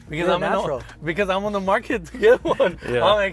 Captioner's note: laughs